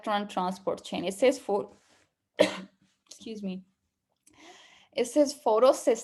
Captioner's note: coughing